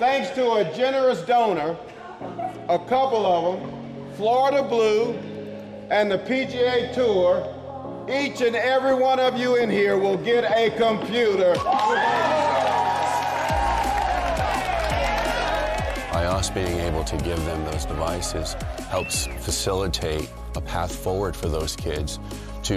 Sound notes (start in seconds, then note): 14.5 kids cheering